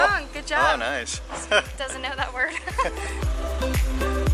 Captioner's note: laughter